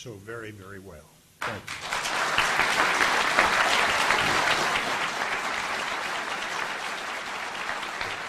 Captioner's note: audience applauding